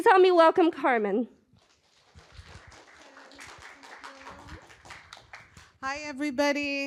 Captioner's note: applause